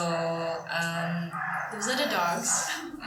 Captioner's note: dogs